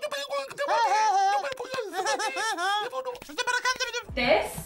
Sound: Pingu honking; seal chattering

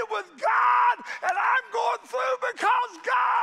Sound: hands clapping

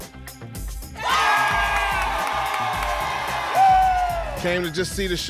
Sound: applause and cheering

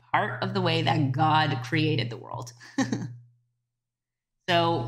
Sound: chuckling

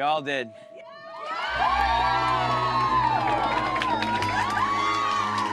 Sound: crowd cheering

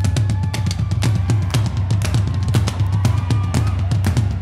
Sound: crowd clapping

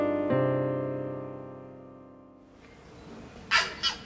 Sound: morning birdsong

